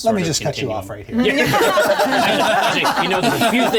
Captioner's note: everyone laughing